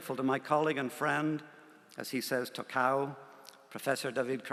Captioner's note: non-english